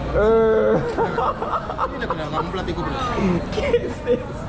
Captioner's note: laughs